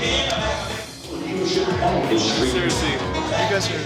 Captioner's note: chatter